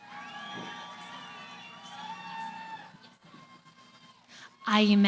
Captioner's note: cheering